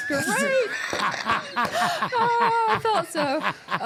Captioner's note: laughing